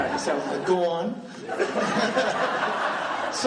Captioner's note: laughing